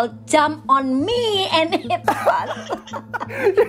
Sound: laughter

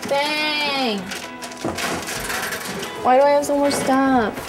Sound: metal rattling

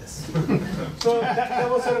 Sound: laughing

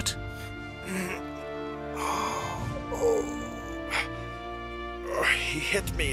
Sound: pained grunting

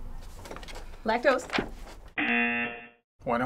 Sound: buzzer

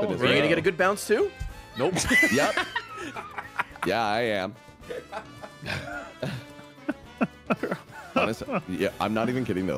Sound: laughs

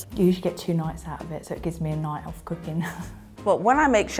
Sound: chuckles

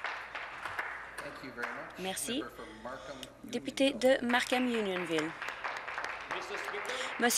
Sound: some Applause

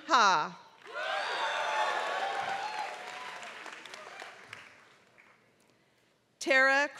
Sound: applause

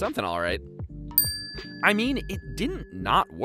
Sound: dings

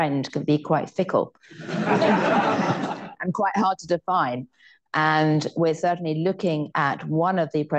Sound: laughter

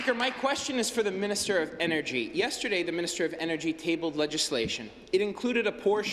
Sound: applause

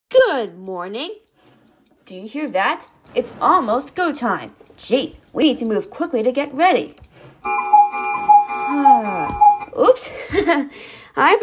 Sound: laughs

